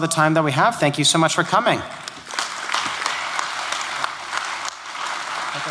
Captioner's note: applause